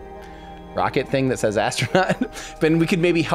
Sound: laughs

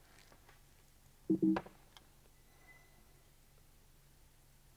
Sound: computer beeps

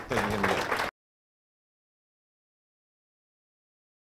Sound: audience applauding

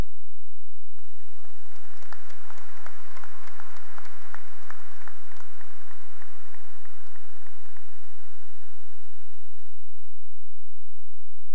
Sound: cheering and applause

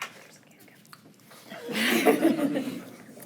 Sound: unmiced voice talking; attendees chuckle

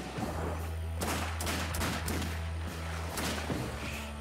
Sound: gunfirefire

